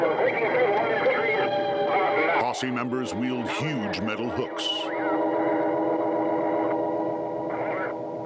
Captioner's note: radio chatter continues